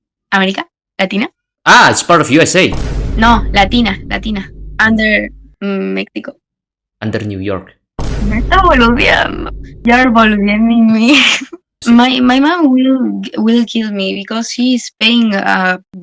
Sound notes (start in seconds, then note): 9.4 Spanish